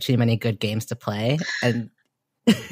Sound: laughs

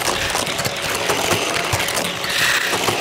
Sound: clicks; wheels whirring

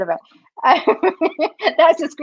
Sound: laughs

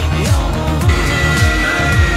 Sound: крик

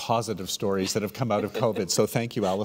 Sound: laughing

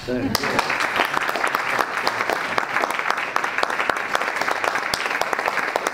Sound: audience and panelists applaud

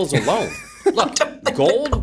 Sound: laughter

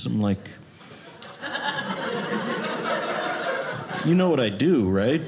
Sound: audience laughing

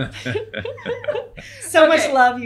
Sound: laughing

